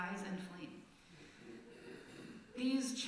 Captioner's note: nervous laughter from congregation